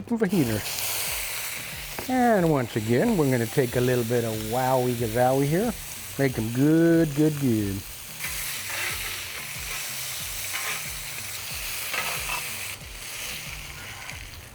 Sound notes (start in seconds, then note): 1.4 sizzling; 8.1 sizzling; 8.1 spatula scraping